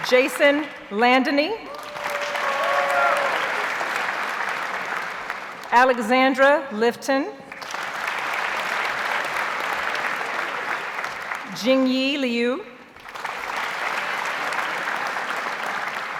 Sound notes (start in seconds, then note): 1.6 audience cheers and applauds; 7.5 audience applauds; 13.0 audience applauds